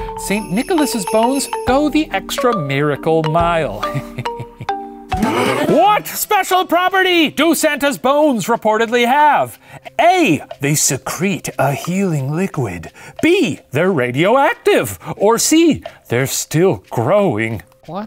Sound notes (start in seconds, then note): 5.1 musical sting; 5.1 tense quiz countdown music; 5.2 laughs